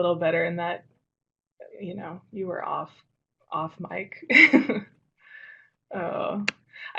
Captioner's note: laughs